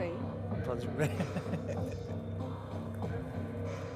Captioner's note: laughs